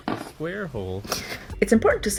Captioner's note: sobbing